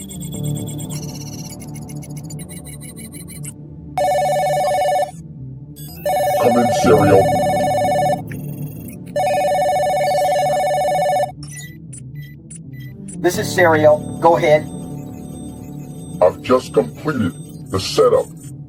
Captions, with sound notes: (phone ringing) - Come in Sirio. - This is Sirio, go ahead. - I've just completed the setup